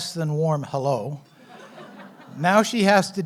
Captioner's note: laughs